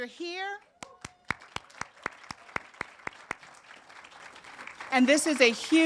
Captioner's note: audience applauding